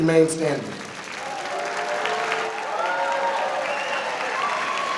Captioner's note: applause